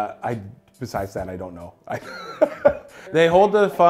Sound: laughs

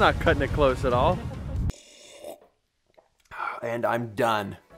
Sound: slurping

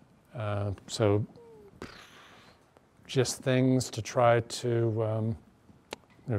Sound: sputters

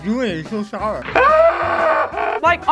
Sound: screaming

